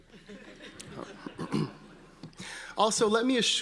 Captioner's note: audience laughing